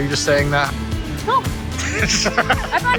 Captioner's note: laughs